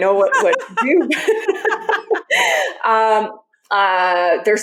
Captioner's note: laughing; laughs